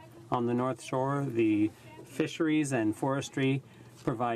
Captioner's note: speaking in french